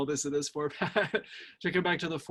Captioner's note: laughs